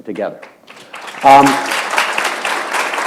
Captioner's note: applause